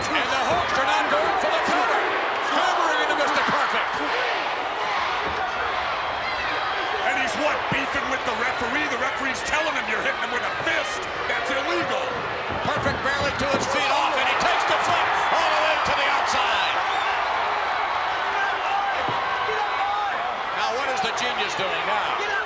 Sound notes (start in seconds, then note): 6.1 applause; 17.1 applause